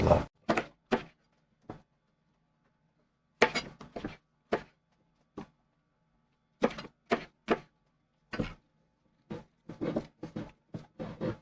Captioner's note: knife cutting